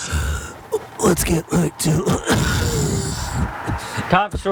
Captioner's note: wheezes